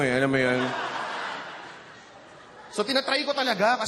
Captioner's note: laughter